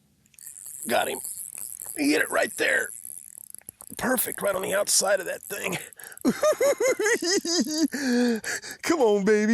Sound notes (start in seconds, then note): 5.6 giggles